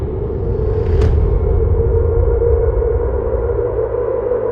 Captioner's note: graphic thuds